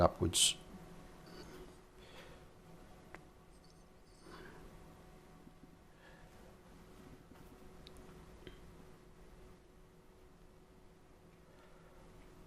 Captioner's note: silence